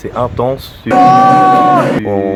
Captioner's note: cheers